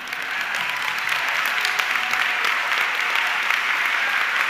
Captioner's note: audience clapping